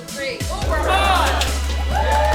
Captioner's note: applause